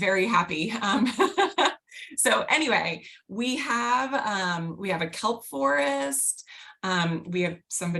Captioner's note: laughter